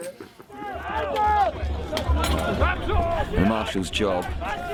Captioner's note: shouting